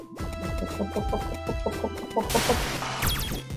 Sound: hup-hup-hupping

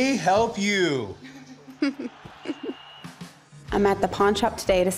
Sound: laughs

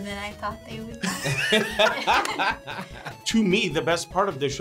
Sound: both laugh

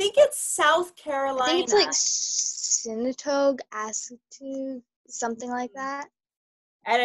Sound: faintly speaking

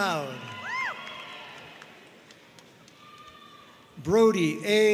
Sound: audience cheering and applauding

